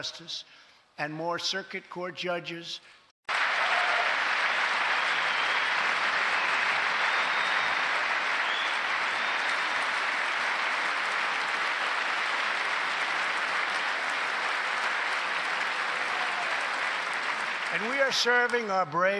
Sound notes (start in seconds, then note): 15.5 applause